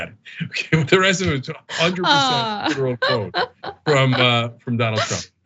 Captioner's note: laugh